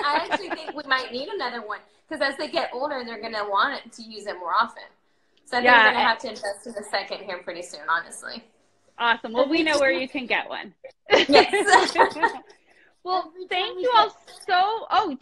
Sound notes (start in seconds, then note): 11.0 both laughing